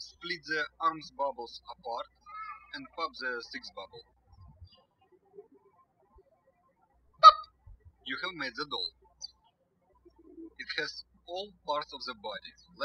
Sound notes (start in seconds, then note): 0.0 birds chirping; 5.4 birds chirping